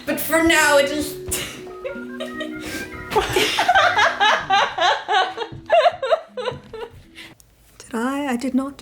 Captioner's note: laughs